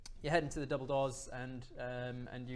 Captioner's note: none